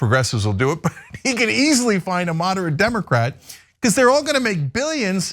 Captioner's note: laugh